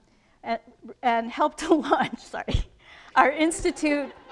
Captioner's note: laughs